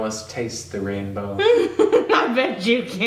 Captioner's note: laughing